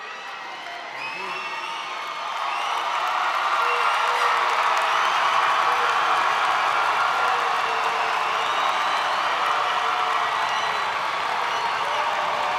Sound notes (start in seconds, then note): 1.7 graduates celebrating